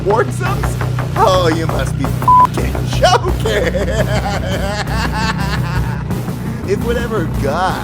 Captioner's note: evil laugh